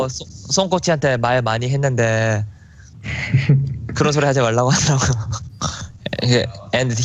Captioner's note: laughs